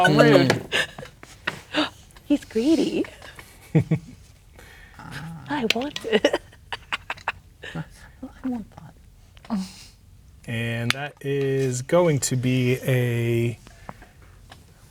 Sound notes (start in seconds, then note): 0.0 gasps; 0.0 players laughing; 3.4 chuckles; 5.7 laughing; 8.1 quietly